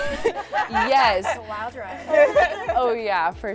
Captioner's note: laughing